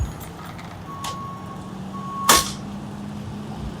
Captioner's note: wood thudding; crane beeping; nail gun firing